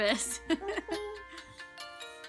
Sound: laughing

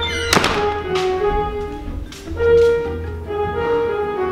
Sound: door closes

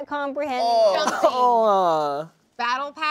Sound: all groaning

